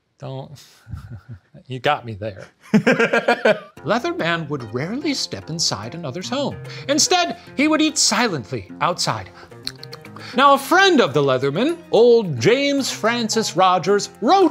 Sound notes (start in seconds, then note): 0.8 laughing; 2.4 laughs; 9.6 smacking